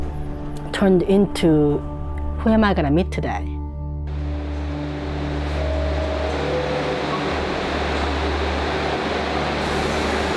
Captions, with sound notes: turned into "Who am I gonna meet today?" [subway chime]